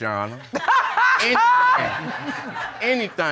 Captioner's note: audience laughing; laughs loudly